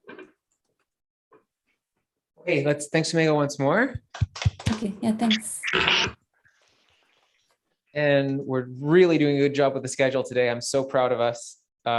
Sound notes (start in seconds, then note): 5.6 applause